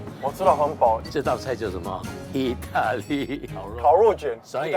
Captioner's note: Italian